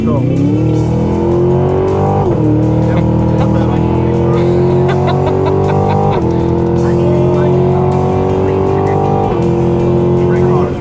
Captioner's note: engine revving; laughter